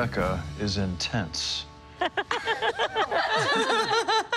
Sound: laughter

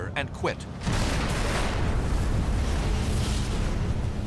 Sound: explosions

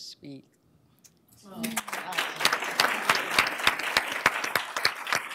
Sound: applause

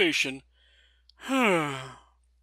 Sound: sighs

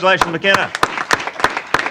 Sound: applause

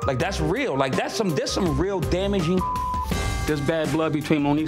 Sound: beep

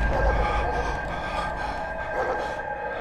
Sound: loud city noises

